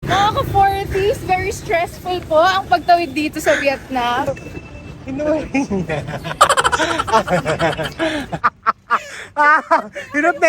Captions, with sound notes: fellow 40s, it's very stressful to cross the streets here in Vietnam He caught it [Laughing] [Laughing SFX] [Laughing]